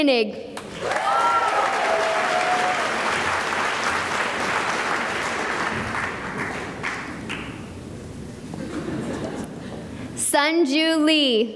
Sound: cheering and applause

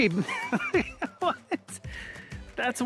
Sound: laughs

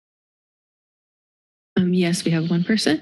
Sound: silence

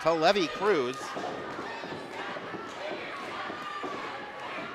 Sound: crowd cheering

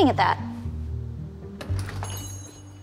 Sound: door jingles

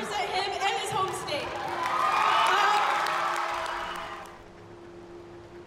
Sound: clapping and cheers

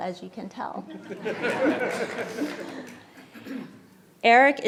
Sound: laughing

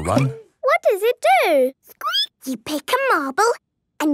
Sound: squeaking

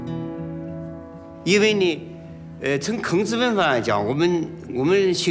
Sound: speaking Chinese

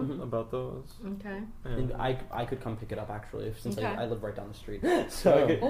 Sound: laughs

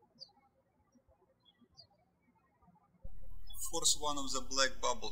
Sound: birds chirping

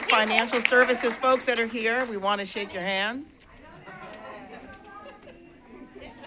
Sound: applause

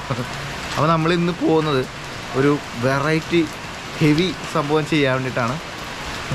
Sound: laughing; laughing

